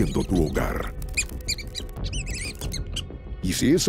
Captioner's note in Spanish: Chillidos de ratas